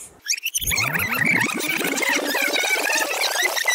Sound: rewind effect

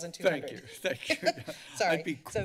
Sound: laughter

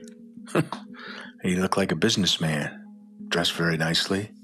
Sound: chuckles

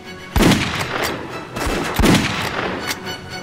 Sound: gun fires

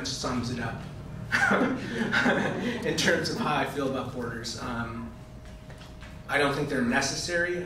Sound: chuckling

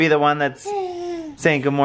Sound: cooing

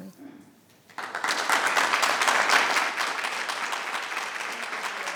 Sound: people clapping

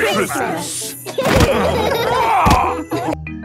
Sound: laughing

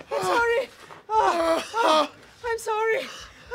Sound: groaning

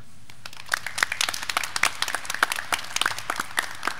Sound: graduands clapping

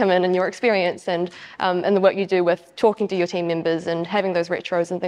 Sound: none

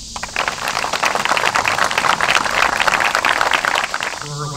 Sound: applause

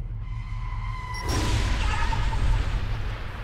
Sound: car tires screeching

